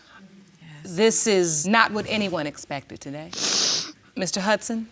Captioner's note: sniffs